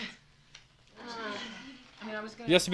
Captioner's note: sighs